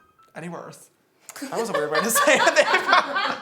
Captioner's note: laughing